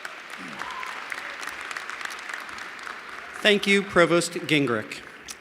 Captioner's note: applause